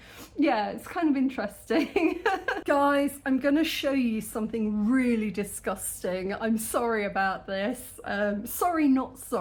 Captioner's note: laughing